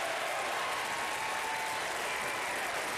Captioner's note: applause